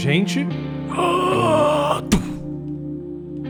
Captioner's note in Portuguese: Grunhidos